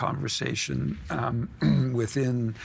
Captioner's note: clearing throat